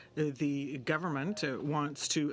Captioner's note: speaking in french